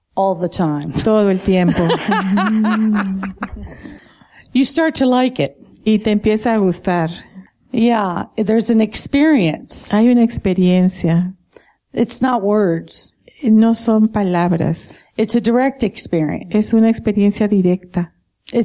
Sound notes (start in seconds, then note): 1.6 laughter